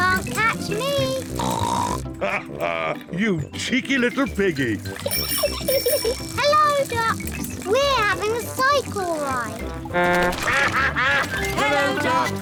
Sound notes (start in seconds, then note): 4.9 giggles; 7.7 all quack; 7.7 toots horn; 9.8 all quack